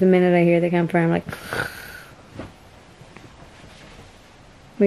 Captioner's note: snoring